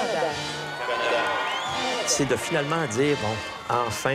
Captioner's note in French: acclamations